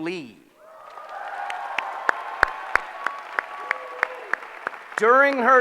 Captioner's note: applause